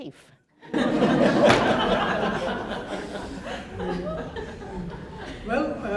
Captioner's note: laughter